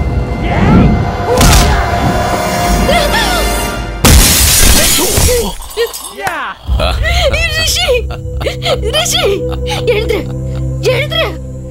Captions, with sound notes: (Glass shatters) Rishi, get up! - (Laughs)